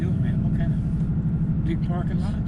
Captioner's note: car engine revving